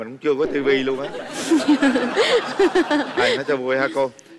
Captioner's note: laugh